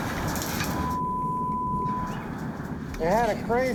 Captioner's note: beeping